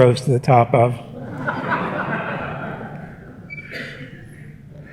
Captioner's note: laughter